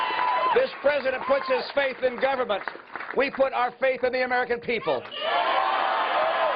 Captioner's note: cheers and applause